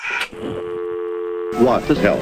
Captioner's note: dial tone